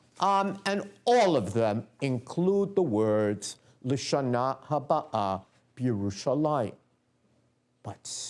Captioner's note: non-english speech